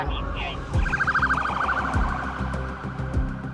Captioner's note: sirens blaring